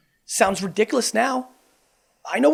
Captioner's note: none